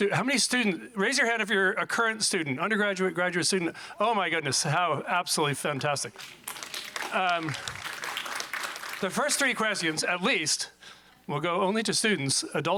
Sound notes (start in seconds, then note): 6.1 audience applauding